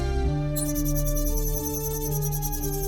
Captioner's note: console beeps; console chirping